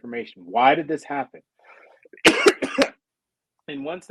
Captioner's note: coughing